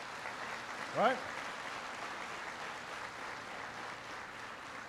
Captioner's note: applause